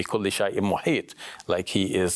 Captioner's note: speaks in foreign language